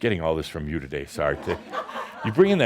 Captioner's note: laughter